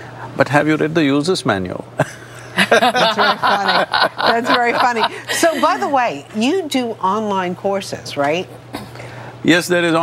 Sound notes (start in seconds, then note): 2.0 laughter; 2.0 both Laugh